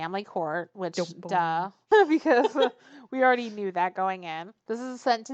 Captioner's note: laughs